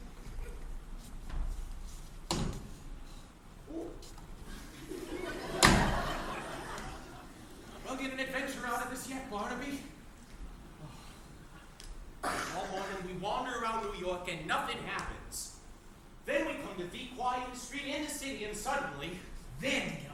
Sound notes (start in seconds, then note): 5.5 door slamming; 10.7 sighs